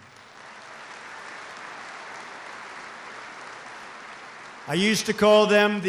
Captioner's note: applause